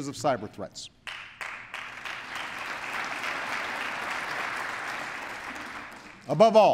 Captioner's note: applause